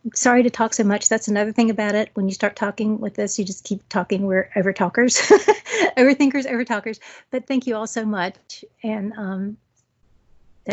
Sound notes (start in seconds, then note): 5.2 laugh